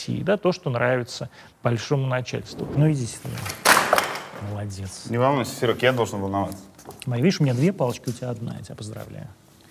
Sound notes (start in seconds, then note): 2.4 cameraman drops something with a loud noise